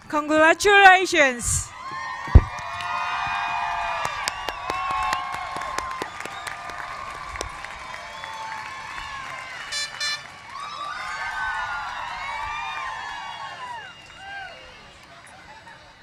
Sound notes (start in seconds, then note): 3.3 cheers and applause; 9.7 air horn blows; 13.0 cheers and applause